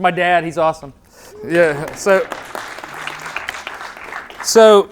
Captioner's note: audience Applause